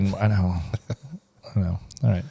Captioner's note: laughs